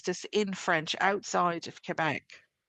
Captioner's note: speaking French